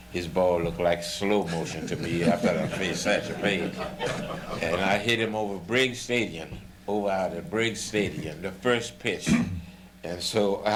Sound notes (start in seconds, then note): 1.9 laughter